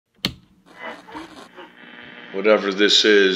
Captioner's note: AM radio channel static